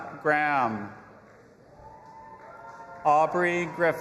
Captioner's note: audience applauding and cheering